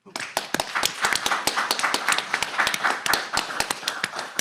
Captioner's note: audience clapping